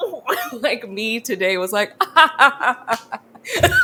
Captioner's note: laughs